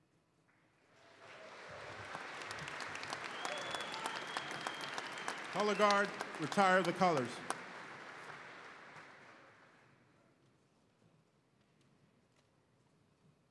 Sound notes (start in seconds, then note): 0.8 applause